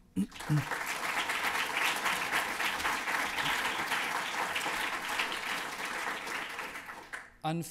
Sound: applause

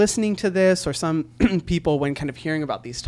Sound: clears throat

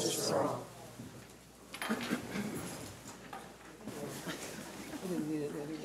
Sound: shuffling and quiet chatter

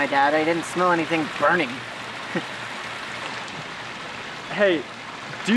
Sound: laughs

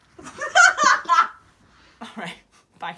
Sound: laughing

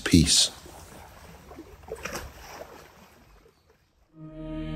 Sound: water lapping

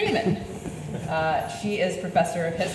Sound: audience laughs

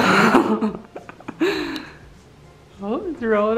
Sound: laughing

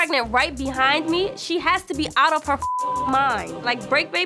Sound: beep

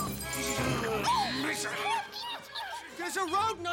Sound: squeaking

